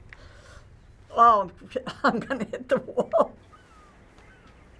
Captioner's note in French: Rire